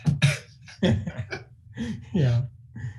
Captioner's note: laughing